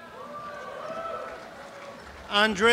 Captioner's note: applause